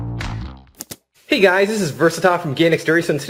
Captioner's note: voiceover